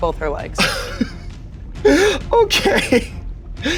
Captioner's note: laughing